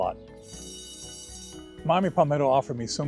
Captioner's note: bell ringing